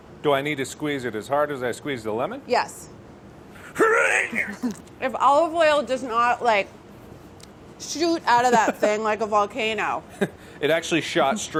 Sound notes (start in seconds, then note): 3.6 Mark grunting; 10.0 laughs